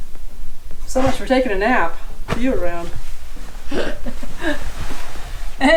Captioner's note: ha ha